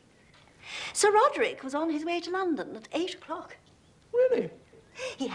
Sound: sigh

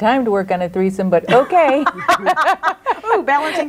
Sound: group laughs

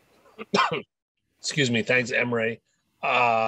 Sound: coughs

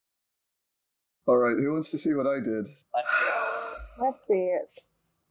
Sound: sigh

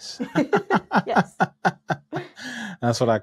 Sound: laughing

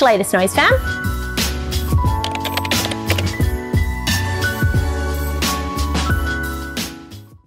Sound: upbeat music; keyboard clatter

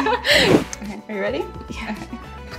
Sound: laughing; transition whooshing

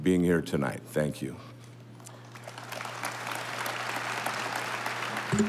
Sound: audience applauding

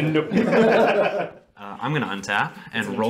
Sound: laughter

